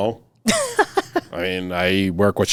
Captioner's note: laughing